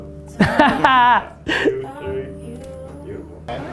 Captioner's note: Gary laughs